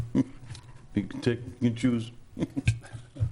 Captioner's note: chuckling